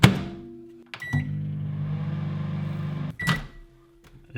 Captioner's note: microwave beeping